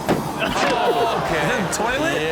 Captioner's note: man crashes and thuds